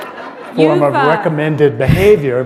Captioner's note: laughter